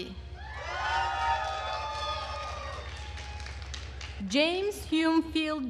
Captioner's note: attendees cheering and applauding